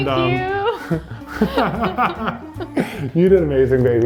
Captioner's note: laughs